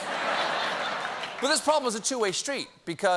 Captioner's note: laughter